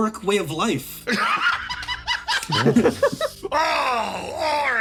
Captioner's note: laughs